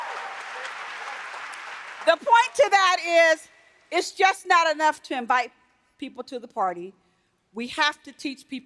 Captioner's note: applause